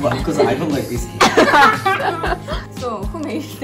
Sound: laugh

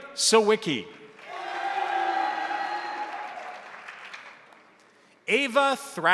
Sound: crowd applauding; crowd cheering

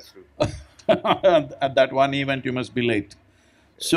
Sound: laughs

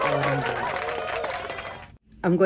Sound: applause

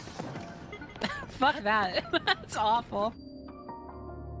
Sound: laughter

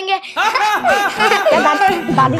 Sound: laughing

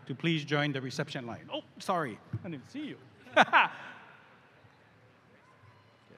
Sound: laughs

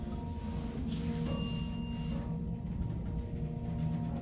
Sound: bell dings to 2 / two

